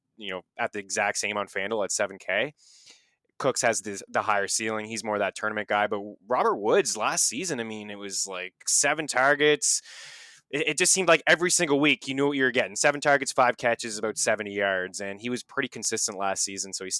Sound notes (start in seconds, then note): 9.8 inhales